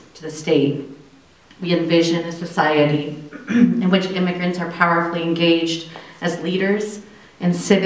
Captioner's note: clearing throat